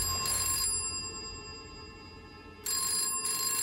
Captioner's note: ringing